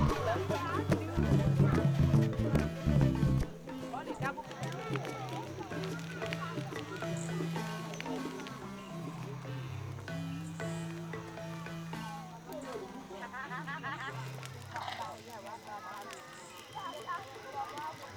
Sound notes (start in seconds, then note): 6.1 fire crackling; 12.9 indistinct chatter